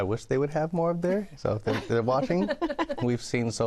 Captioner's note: laughter